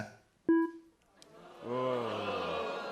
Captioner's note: audience "Ohhs"